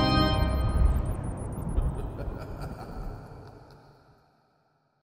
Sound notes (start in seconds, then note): 0.3 thunder rumbling; 1.9 sinister laughter